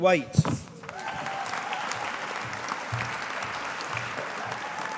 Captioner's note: audience applauding